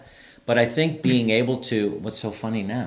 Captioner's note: chuckles